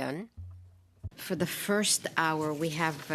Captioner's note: speaking French